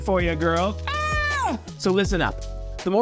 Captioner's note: screams